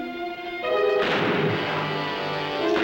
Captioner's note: gunfire